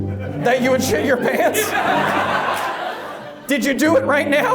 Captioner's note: audience laughs